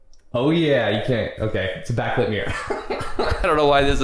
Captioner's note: chuckles